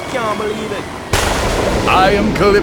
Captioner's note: thunder